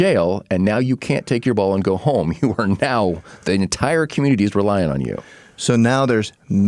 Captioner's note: laughing